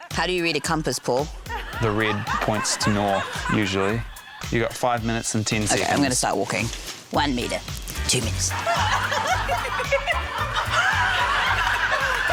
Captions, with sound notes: How do you read a compass, Paul? (LAUGHTER) - The red points to north usually. You've get five minutes and 10 seconds. - OK. I'm going to start walking. 1m, 2m,... (LAUGHTER)